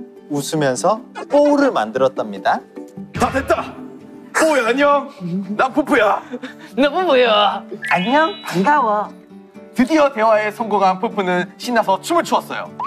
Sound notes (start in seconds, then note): 2.9 Peupeu's manly voice; 7.8 Ppowoo with sweet voice